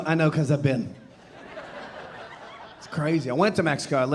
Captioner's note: audience laughing